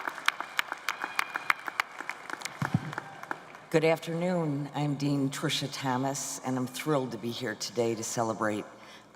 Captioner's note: cheers and applause